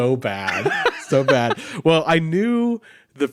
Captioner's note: laughs